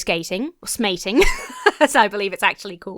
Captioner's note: laughs